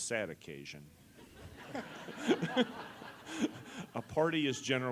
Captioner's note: laugh